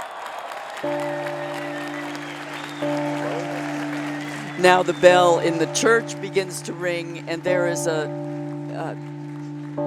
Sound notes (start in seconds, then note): 0.0 applause; 0.8 bell rings